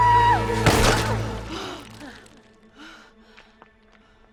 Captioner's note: Wonder Woman screams; stone crunching